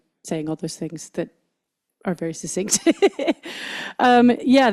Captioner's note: laughs